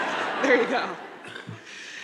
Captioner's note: crowd laughing